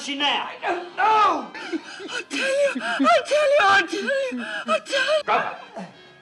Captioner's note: gasping